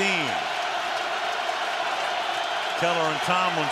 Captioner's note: crowd cheering